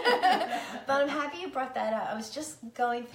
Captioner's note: laughing